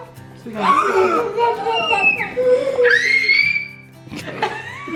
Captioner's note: squeals; laughs